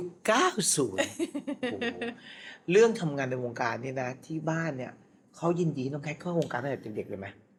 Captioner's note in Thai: เสียงหัวเราะ